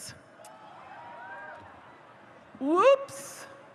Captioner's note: audience cheers